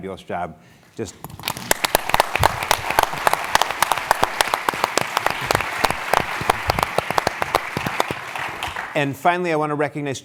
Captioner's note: applause